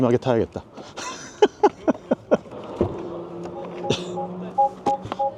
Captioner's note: laughs